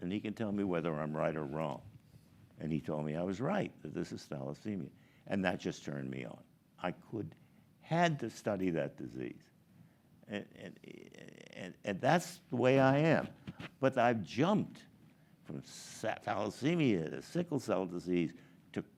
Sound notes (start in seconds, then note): none